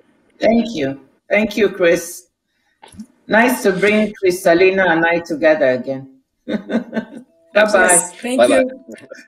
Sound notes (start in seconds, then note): 6.5 laughs